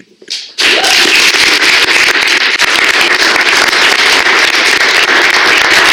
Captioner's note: applause